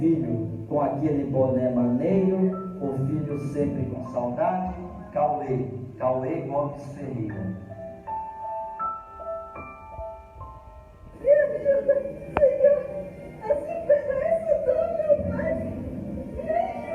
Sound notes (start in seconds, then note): 11.2 sobbing, Crying